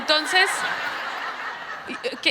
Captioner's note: crowd laughs